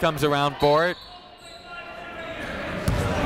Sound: whistle

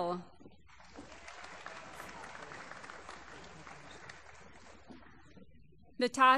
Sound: applause

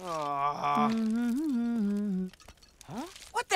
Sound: groaning; humming

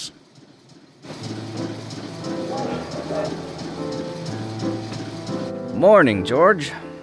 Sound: train rumbling

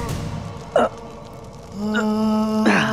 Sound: moans

